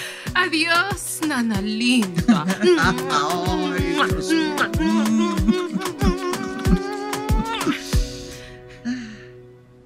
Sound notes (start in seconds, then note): 3.6 shower of kisses